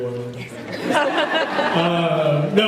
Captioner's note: laughs